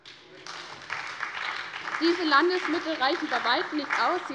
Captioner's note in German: Beifall bei der SPD